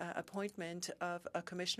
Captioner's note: speaking French